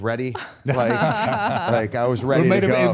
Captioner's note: all chuckling